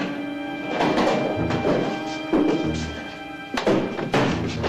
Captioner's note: briefcase locks clicking; dramatic music